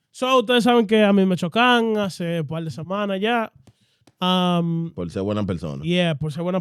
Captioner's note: speaking In Foreign Language